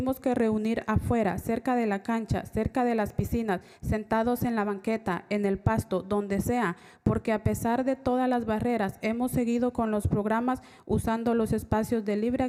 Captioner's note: spanish